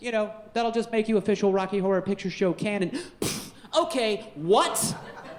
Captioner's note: puffs; audience laughing